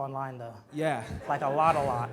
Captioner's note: audience laughs